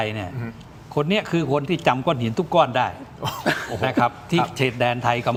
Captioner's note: laughter